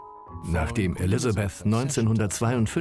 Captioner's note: voiceover